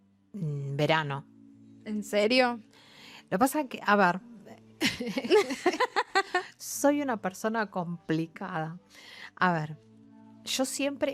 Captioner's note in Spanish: risas